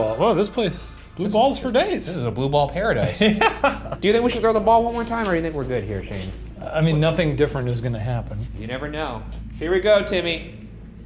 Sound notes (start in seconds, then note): 3.0 laughing